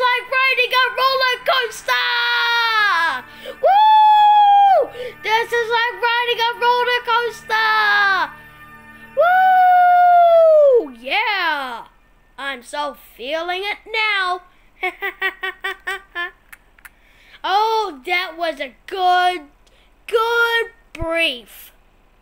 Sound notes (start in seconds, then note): 3.6 screams with excitedly; 9.4 he screams; 14.8 laughing